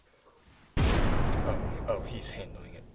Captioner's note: explosion